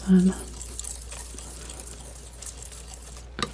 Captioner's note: scratching